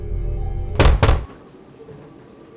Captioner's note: loud banging